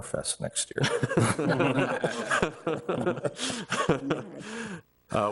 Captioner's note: everyone laughs